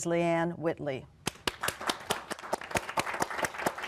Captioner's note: applause